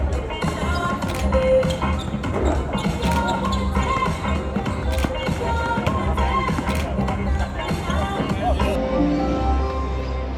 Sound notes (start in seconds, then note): 0.0 upbeat music; 1.0 camera shutter clicking; 3.0 shoes squeaking; 6.6 camera shutter clicking